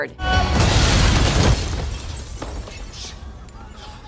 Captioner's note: glass breaks